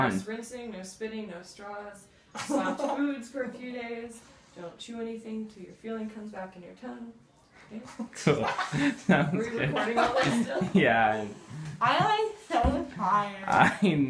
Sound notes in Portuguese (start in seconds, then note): 8.2 risos